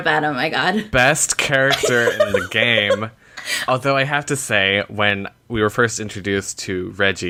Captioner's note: laughter